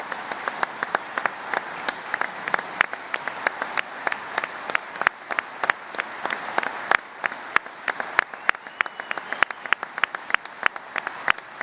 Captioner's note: applause